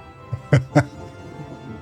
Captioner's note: laughing